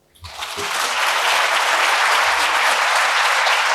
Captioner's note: applause